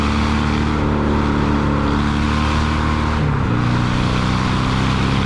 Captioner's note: engine roars